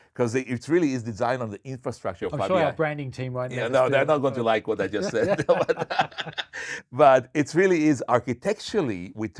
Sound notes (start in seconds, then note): 4.8 laughing